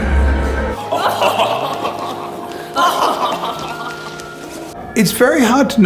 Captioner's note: annoying laughing